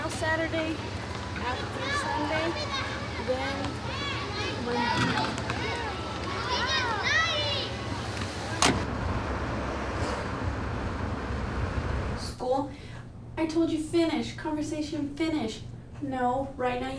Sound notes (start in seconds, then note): none